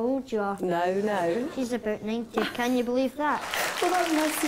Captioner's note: applause from audience